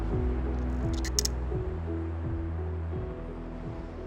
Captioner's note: shutter clicking